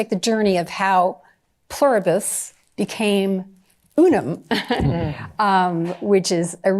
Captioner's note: chuckles